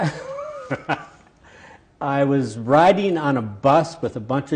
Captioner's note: laughs